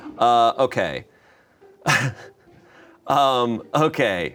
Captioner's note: chuckles